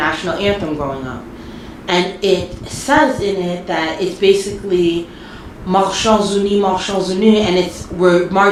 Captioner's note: speaks in French